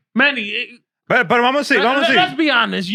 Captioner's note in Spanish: Hablando en idioma extranjero